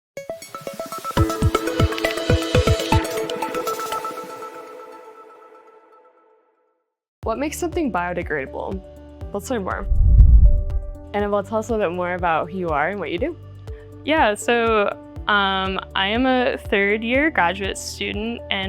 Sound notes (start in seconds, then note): 0.2 bright music; 9.8 air whooshing